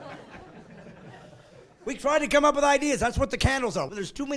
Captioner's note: laughing